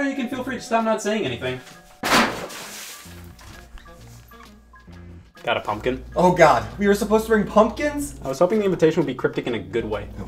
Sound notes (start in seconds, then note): 2.1 water splashing